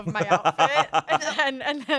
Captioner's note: laughs